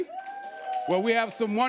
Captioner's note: audience cheering